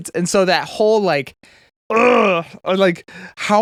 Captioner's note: grunts